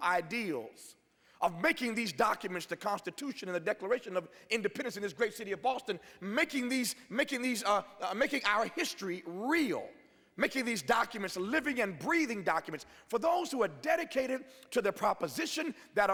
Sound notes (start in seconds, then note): none